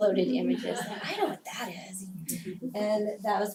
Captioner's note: laugh